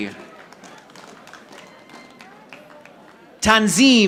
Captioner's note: audience applauding